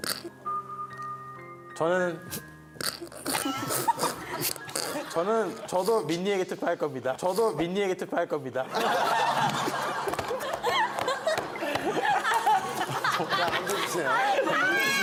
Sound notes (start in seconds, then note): 3.1 stifling back tears of pity